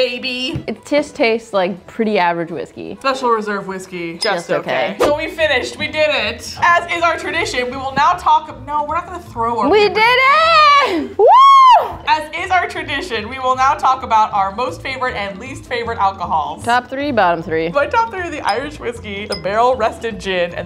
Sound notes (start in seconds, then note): 11.2 cheering